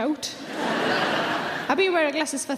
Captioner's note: audience laughing